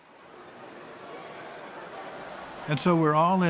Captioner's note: loud, overlapping crowd chatter